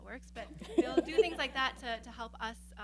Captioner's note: laughing